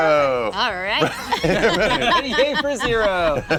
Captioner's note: laughter